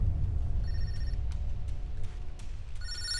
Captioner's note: phone ringing